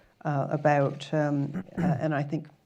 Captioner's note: clears throat in background